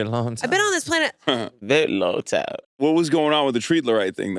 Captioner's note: laughs